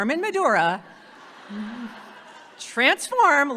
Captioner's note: audience laughing